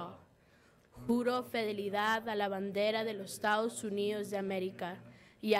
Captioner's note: speaking in foreign language